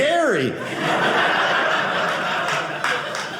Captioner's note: audience laughing